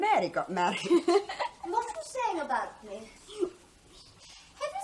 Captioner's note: laughs